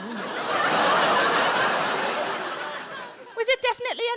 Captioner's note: audience laughing